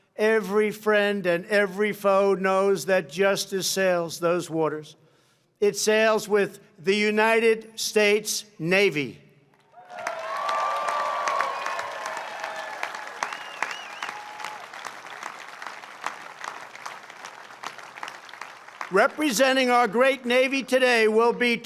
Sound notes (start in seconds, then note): 9.6 applause